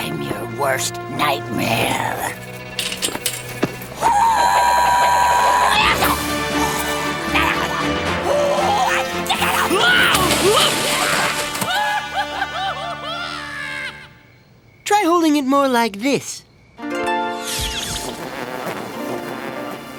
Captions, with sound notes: Who-who-who are you? I’m your worst nightmare. (Shouting) (Boyd screaming) Try holding it more like this.